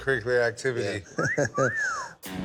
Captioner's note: wolf whistle